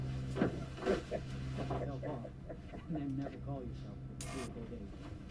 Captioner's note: men chattering